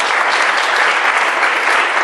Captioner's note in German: applaus